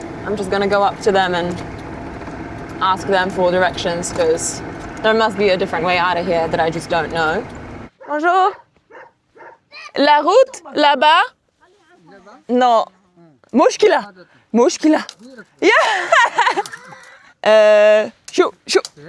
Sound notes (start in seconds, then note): 8.2 speaks in foreign language; 13.7 both speaks in foreign language; 15.5 laughs happily